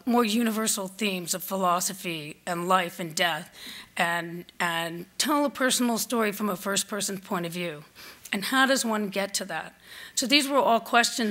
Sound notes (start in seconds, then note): none